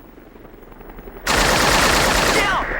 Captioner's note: helicopter buzzing; rapid gunfire popping